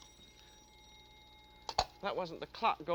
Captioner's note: timer dings